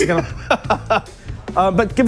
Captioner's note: laughs